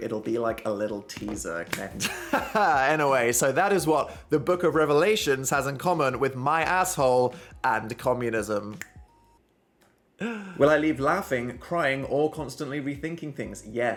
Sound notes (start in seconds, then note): 2.0 laughs; 8.7 fingers clicking